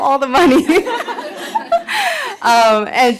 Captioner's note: laughter